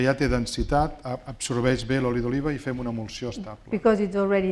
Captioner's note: speaking spanish